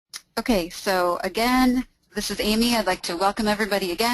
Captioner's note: voiceover